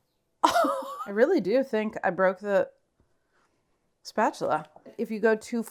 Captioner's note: laughs